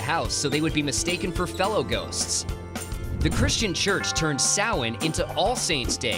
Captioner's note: bell